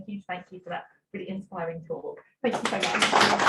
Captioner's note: applause